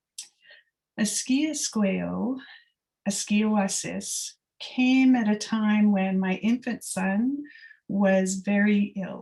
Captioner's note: non-english speech